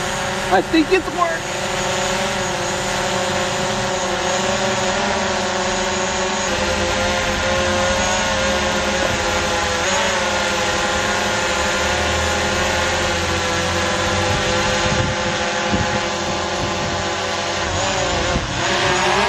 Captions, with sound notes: I think it worked! (drone buzzing)